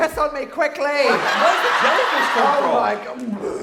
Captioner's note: laughing